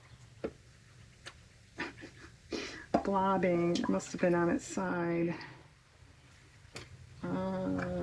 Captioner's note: laughs